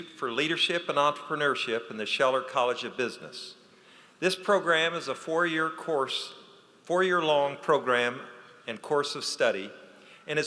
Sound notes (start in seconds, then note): none